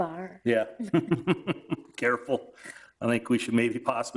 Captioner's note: man chuckling